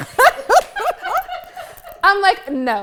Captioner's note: group laughs